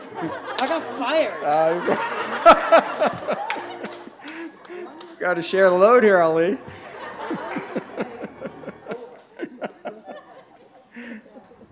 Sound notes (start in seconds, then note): 2.1 laughter; 6.6 laughter